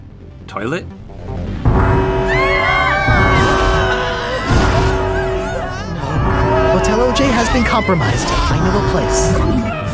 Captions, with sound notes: Toilet? [SIREN BLARES] [SCREAMING] No... Hotel OJ has been compromised. I know a place.